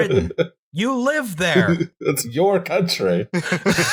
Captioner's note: laughter